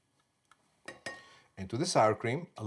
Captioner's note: tapping bowl